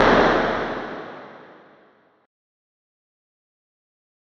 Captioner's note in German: Stille